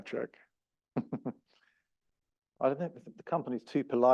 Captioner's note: laugh